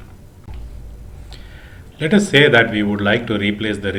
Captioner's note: chattering